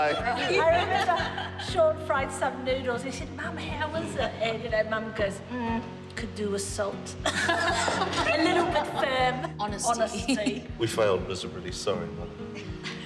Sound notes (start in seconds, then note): 7.2 laughter; 12.5 laughs